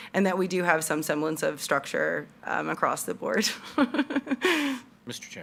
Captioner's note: laughing